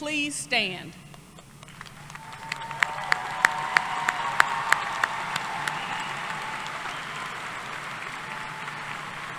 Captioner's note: applause